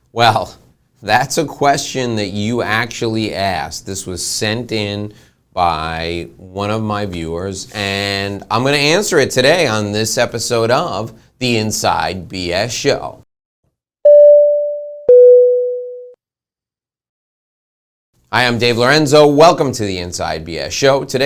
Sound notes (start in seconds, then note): 15.2 bell dinging